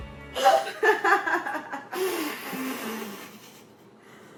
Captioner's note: jazzy laughing